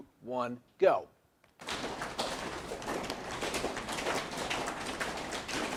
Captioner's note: audience slapping legs